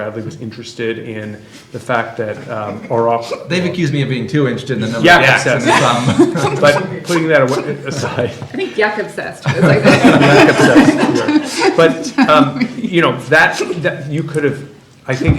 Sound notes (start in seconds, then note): 9.4 laughter